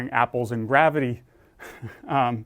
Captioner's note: laugh